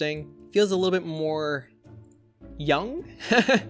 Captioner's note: laughs